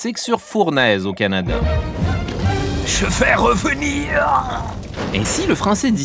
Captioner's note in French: accent autrichien